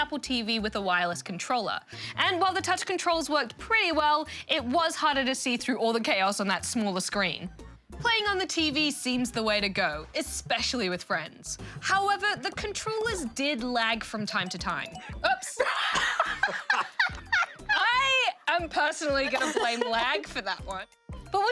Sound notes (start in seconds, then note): 16.1 both laugh